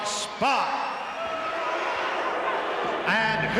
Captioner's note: crowd boos